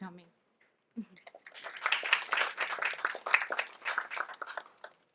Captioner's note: audience applauds